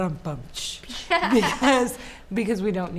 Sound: laughter

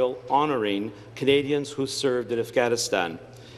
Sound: none

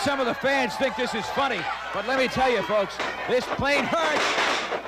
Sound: crowd yells encouragement

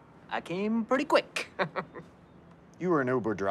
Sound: chuckles

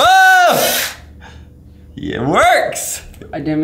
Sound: buzzing

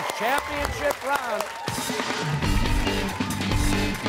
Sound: applause

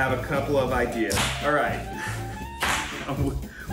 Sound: popping; chuckles

